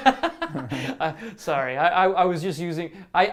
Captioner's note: laughs